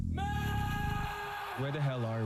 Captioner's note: man screams